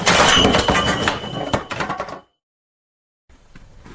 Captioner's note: trap triggered